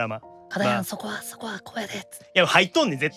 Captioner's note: whispering